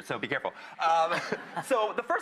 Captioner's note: laughing